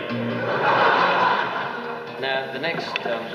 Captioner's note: audience laughs